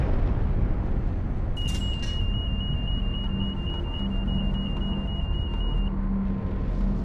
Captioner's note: alarm sounding